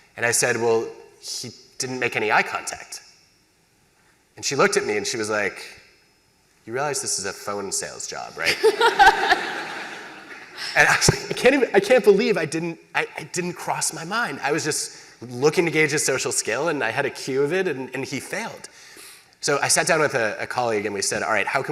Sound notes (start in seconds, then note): 8.4 laughter